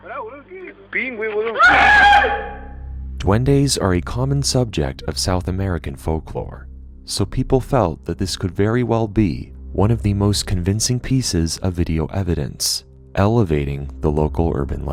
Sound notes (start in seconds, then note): 0.0 group talking; 1.5 screaming